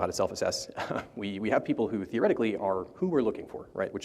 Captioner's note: chuckles